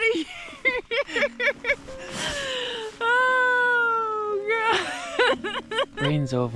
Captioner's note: laughs